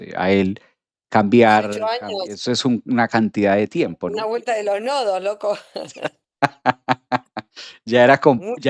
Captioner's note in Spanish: risas